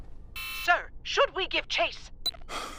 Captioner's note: over communicator